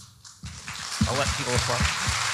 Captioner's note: audience applauding